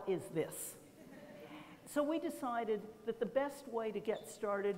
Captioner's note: laughter